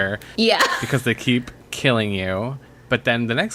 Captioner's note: laughs